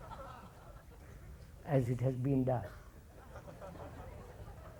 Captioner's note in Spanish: Risas